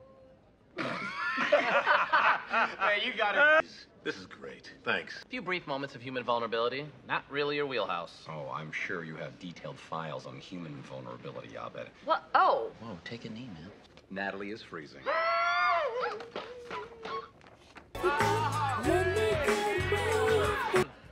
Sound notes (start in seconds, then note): 0.7 laughs; 15.1 cheering